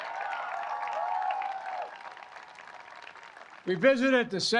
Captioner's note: applause